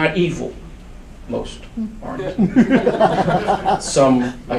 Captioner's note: audience laughs